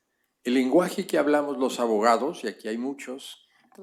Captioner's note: speaking spanish